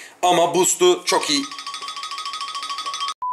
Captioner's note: phone is ringing